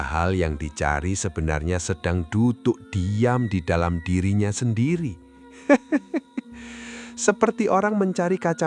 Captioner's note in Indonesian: tertawa